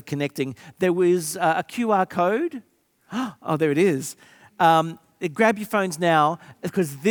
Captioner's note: gasps